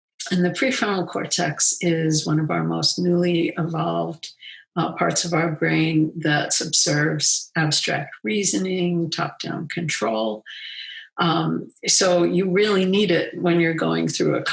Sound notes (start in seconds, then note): none